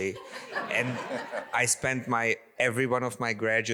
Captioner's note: audience laughs